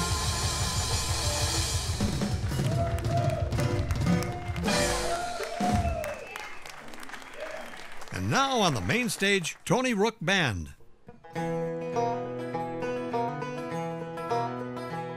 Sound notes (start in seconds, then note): 2.1 audience cheering; 11.1 upbeat bluegrass music